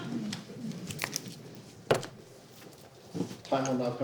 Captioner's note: paper rustling